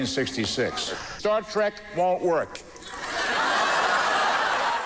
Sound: laughter

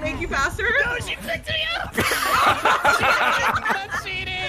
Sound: laughs

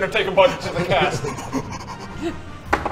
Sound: excited panting

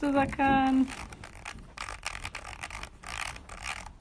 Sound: reel clicking

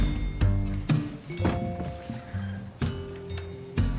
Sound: cell phone notification

